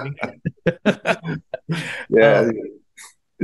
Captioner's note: both laughing